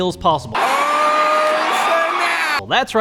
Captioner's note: crowd yelling